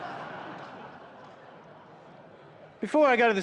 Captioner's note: laughter